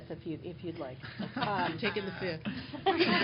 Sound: laughter

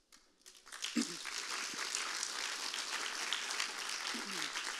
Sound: audience clapping

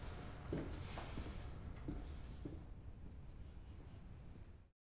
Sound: footsteps treading

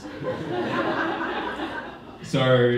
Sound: audience laughing

